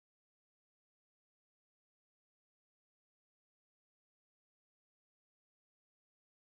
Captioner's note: none